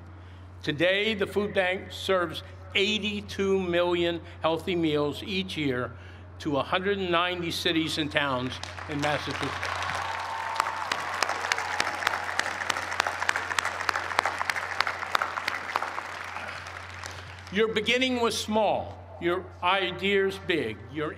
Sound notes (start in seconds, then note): 12.3 cheers and applause